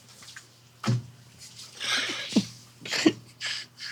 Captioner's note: hand slamming; Dwyane laughing